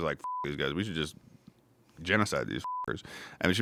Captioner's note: beep; beep